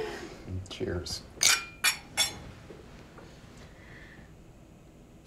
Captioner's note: glasses clinking